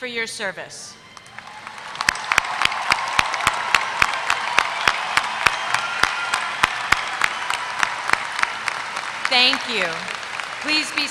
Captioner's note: applause